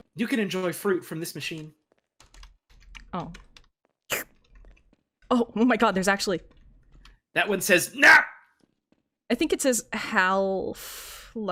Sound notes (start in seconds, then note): 3.9 single slurp sound